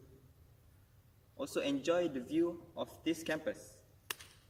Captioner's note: claps